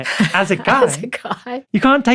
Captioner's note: laughs